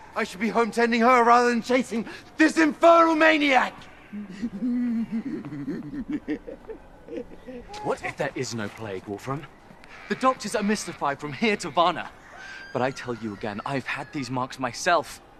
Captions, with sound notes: I should be home tending her rather than chasing this infernal maniac! [Knock laughs mockingly] What if there is no plague, Wolfram? The doctors are mystified from here to Varna. But I tell you again I've had these marks myself.